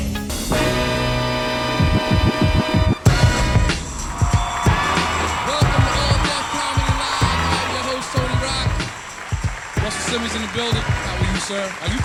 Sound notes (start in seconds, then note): 0.1 bright pop music; 3.8 crowd cheering